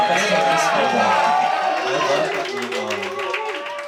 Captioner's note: cheering